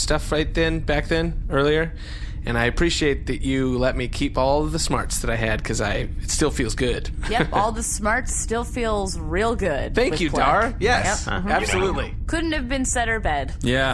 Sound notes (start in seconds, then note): 7.4 mocking